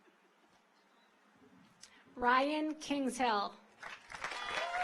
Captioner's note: audience applauds